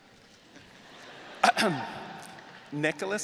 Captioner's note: audience laughing